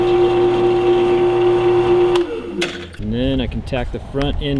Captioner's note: drilling sounds